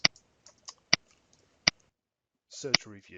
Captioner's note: mouse clicking